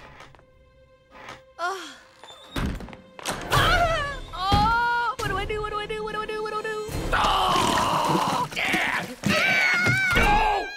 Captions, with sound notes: Uh. [shrieking] What do I do? What do I do? What do I do? What do I do? [groaning] [girl screaming] Oh!